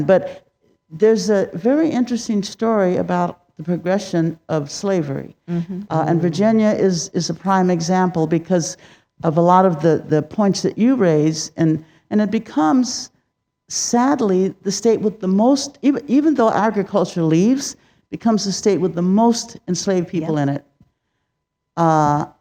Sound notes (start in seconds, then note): none